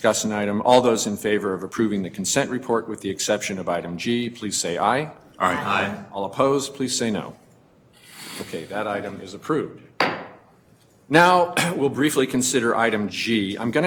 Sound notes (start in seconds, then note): 10.0 banging gavel